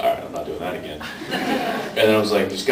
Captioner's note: laughs